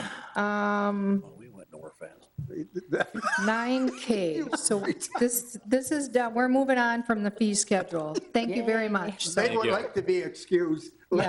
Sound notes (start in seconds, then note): 2.5 people chuckling